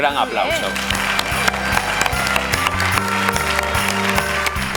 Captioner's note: applause